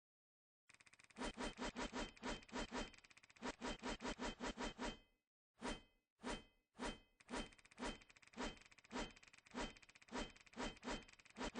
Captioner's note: random swinging noises